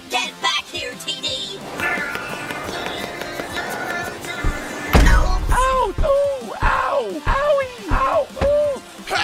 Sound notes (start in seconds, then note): 1.1 imitating plane sounds